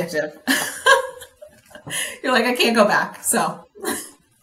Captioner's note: laughs